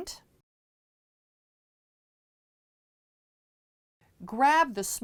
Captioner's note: no Sound Present